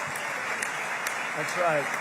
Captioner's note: applause